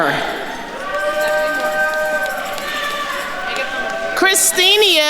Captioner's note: attendees cheering